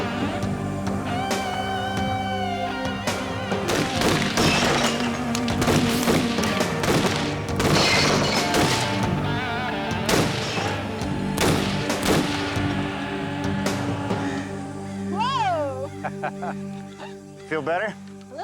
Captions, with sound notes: (gunshots blasting) (glass shattering) - Whoa! - (laughs) Feel better?